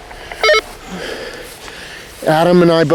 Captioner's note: walkie talkie bleeps